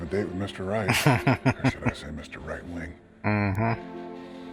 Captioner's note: chuckling